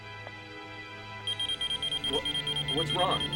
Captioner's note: machine beeping erratically